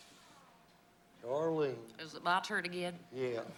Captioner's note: in a southern accent